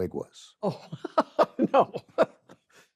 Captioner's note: laughs